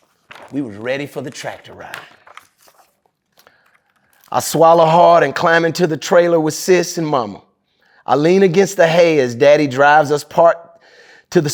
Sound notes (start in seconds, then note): 2.3 pages rustling